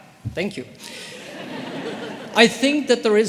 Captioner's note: audience laughing